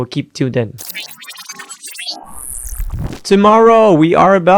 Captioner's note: machine whirring